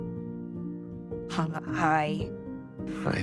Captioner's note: stuttering